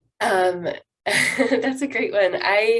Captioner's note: laughs